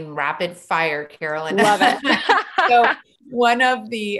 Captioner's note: laughs